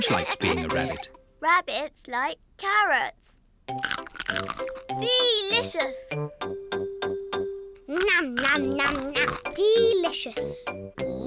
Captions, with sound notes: George likes being a rabbit. Rabbits like carrots. (CRUNCHES) Delicious! (CRUNCHES) Delicious!